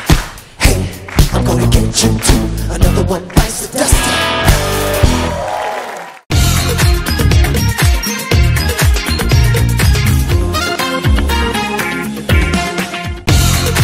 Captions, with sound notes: Hey, I'm going to get you, too. Another one bites the dust. [scattered applause] [theme music]